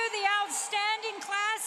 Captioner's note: applause